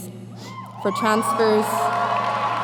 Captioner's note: cheers and applause